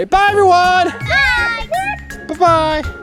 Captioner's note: clucks